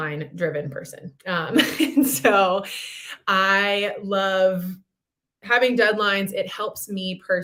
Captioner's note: laughter